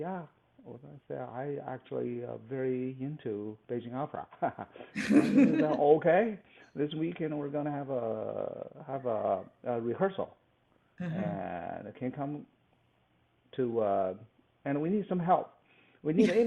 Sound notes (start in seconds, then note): 4.9 laughs